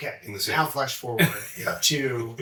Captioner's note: chuckles